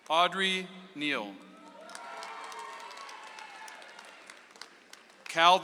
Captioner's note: audience applauds